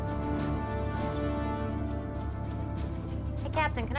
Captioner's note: none